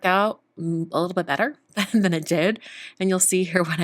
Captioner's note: chuckling